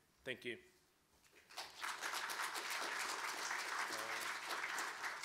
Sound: clapping

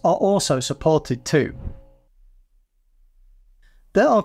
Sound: air whooshing

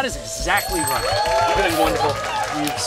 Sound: cheering and applause

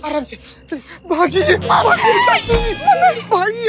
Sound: screaming

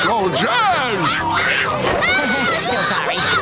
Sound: screaming; chuckles

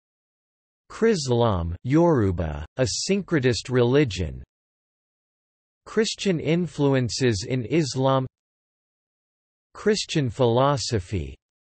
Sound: Yoruba

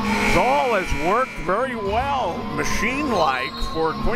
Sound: buzzer

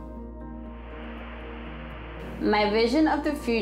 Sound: static noise

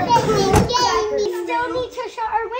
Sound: car door closing sound effect

